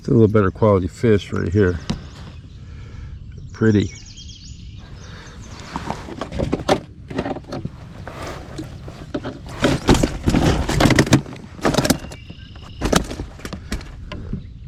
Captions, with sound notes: It's a little better quality fish right here pretty. (bag rustling) (fish flopping)